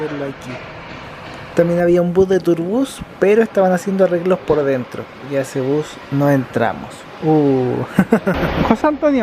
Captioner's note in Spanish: risas